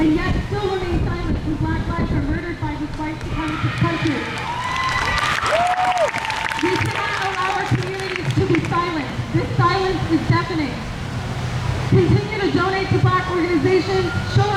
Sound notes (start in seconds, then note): 3.2 crowd cheers